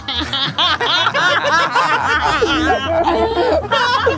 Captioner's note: group still laughing